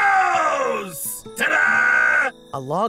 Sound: crickets chirping; gentle guitar music

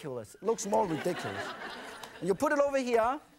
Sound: audience laughs

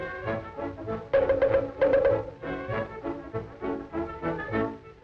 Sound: wood clangs

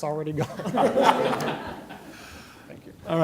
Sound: laughter

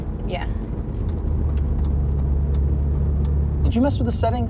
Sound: turn signal clicking

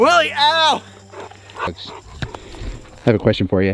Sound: Willie panting

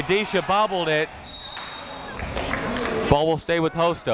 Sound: whistle

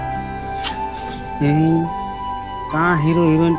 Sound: clicks tongue

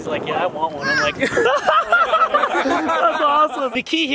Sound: laughs

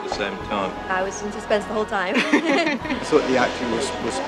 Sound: laughs

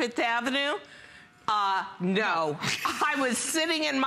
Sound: laughter

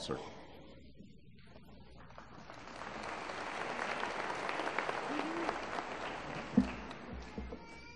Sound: applause

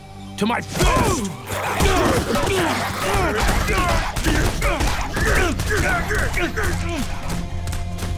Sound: grunting

